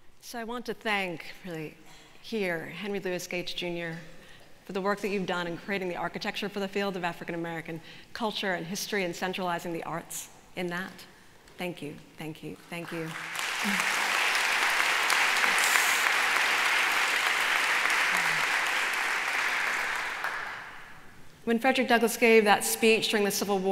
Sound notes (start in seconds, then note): 13.1 applause